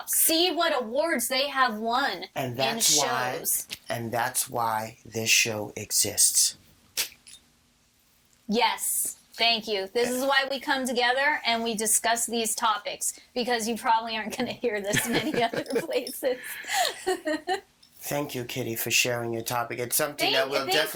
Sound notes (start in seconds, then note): 14.8 laughing